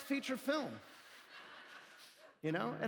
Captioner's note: laughter